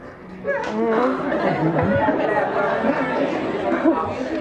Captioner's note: audience laughing